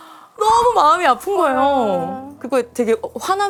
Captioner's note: choked Up